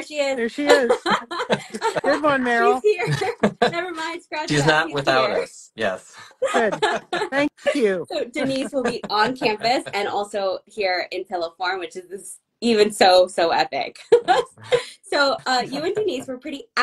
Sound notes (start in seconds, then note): 6.1 laughing